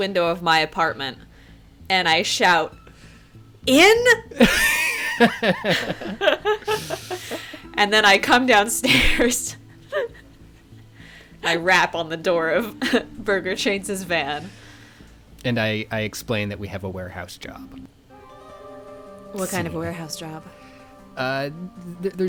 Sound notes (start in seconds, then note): 4.1 laughing